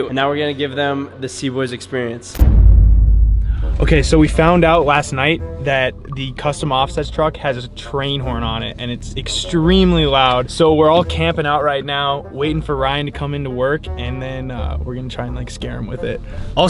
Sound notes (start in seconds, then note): none